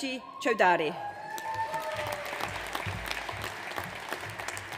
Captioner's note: audience applauds